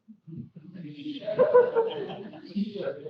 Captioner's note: laughing